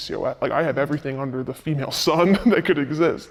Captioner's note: chuckles